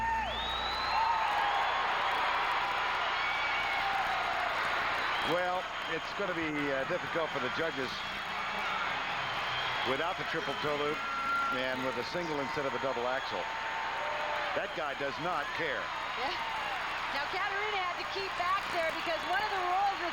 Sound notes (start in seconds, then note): 4.5 cheers and applause